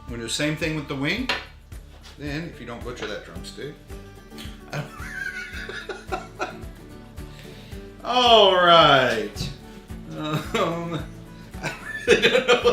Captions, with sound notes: We're gonna do the same thing with the wing. Then if you don't butcher that drumstick (laughing), all right.